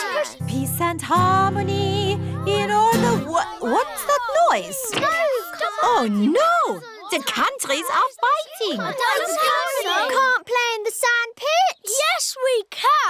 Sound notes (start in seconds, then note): 2.4 commotion